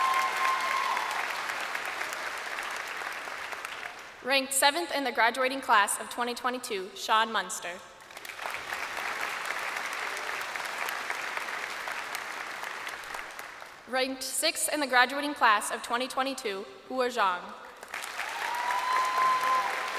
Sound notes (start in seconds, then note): 0.0 crowd cheering; 10.1 crowd applauding